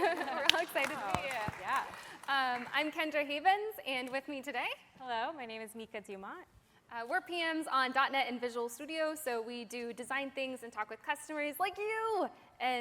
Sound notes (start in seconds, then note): 3.8 applause